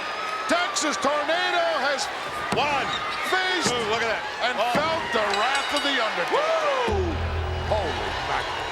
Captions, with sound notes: Texas Tornado has- One, two, look at that. Faced and felt the wrath of the Undertaker. (bell rings) Woo! Holy mackerel.